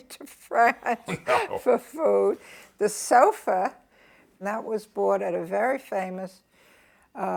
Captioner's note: laughs